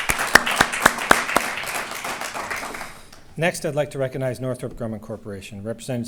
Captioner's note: applause